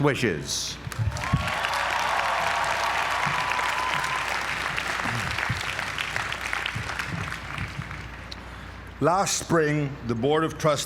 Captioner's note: applause